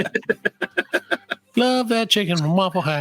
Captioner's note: laughs